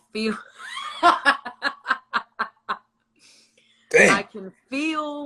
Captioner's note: laughs